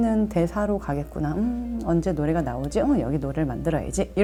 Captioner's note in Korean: 흥얼거리며